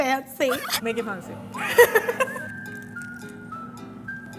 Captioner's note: laughs